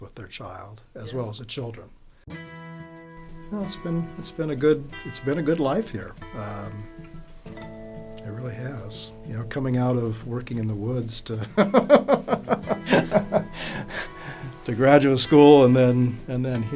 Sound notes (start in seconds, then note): 3.2 guitar music; 11.4 laughs